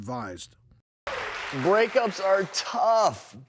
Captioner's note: audience clapping